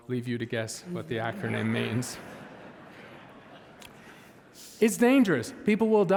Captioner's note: audience laughing